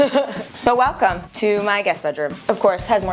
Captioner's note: cameraman laughing